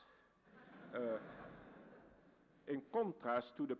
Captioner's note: crowd laughs